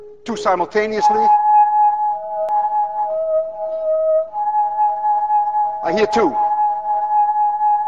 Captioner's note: tube hums two tones